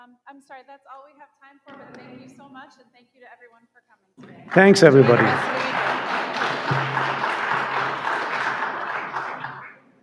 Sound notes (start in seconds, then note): 4.2 audience applauding